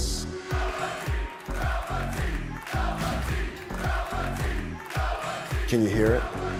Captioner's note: fans chanting